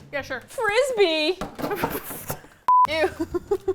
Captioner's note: box clatters; laughing; both laugh